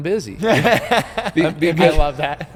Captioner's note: laughing